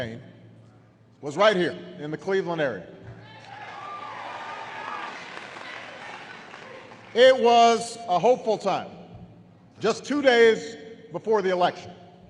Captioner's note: applause